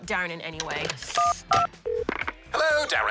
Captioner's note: buttons beep, line rings